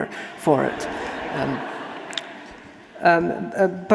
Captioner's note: audience laughing